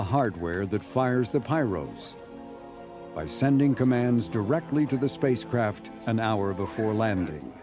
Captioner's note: none